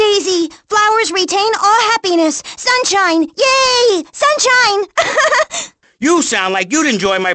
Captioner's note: laughs